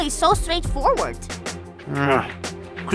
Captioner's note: teacher grunts